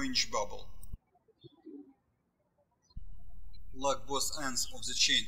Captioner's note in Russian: птички щебечут